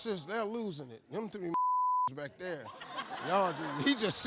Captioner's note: beep